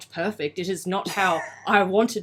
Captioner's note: laughs